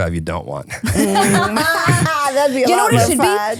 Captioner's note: all laughing